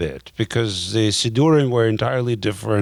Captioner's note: speaking in a foreign language